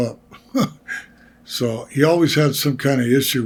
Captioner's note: Greg laughs